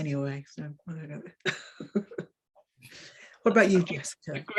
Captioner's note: woman chuckling